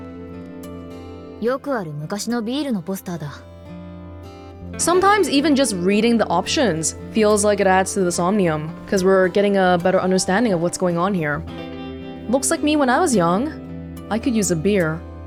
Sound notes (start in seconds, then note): none